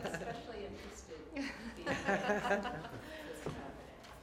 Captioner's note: laughter